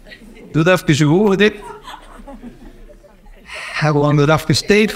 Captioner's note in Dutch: het gelach van spanning verhoogt in het publiek